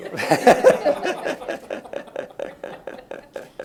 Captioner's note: laughs